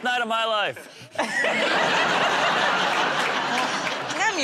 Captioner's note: laughter